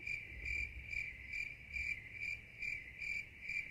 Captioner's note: crickets chirp